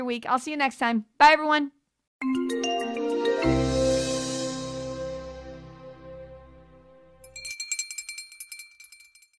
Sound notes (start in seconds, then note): 2.2 bright digital music; 7.2 bell tinkling